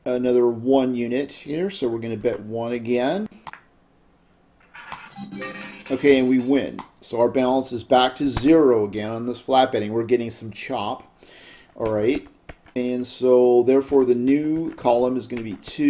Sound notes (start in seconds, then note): 3.6 ball rolling; 5.0 successful chime